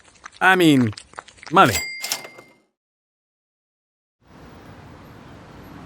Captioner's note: cash register dings